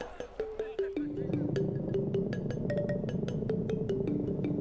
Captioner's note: boat engine running